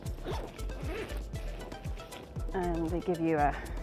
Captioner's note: bag zipping